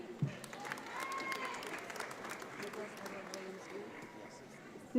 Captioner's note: audience applauds